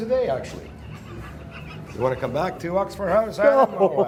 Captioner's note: Edge laughs